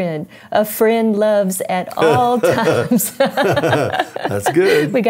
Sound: laughing; laughs

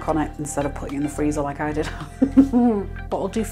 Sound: laugh

